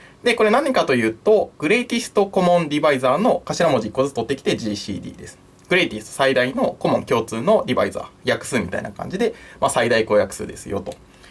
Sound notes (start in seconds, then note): 5.6 in Japanese